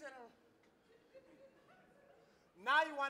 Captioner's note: laughing